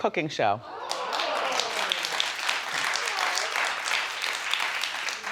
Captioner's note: audience applause